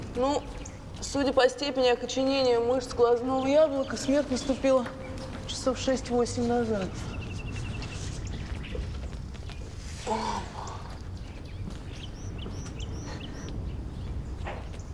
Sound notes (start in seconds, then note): 10.0 moans